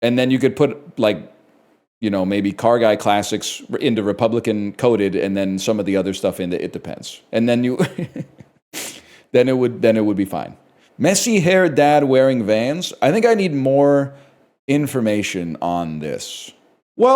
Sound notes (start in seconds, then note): 7.8 chuckles